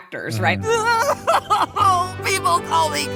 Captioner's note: wailing